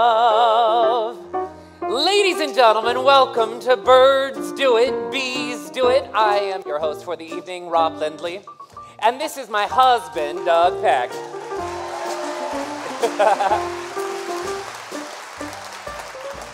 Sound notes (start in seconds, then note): 11.1 applause, cheering; 12.9 laughs; 13.1 applause, cheering; 14.1 applause